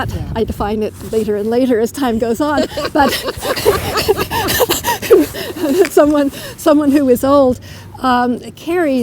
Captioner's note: laughter